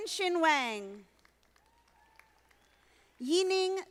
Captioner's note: audience applauding